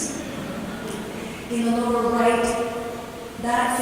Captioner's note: chuckling